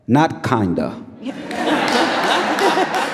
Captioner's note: audience laughs; audience applauding